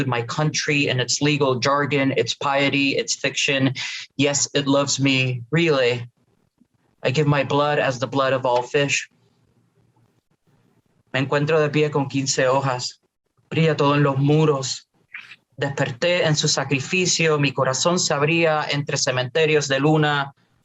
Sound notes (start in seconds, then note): 11.0 spanish lamguage